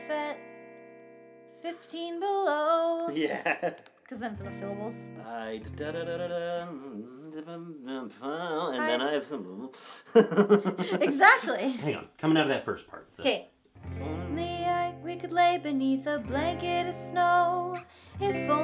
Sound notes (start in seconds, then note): 3.1 laughing; 9.8 both laughing; 13.7 guitar strumming music